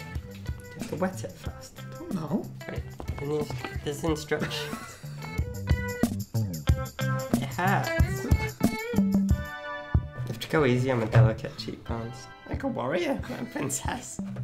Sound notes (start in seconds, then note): 4.3 laughs; 4.6 uptempo music; 8.8 uptempo music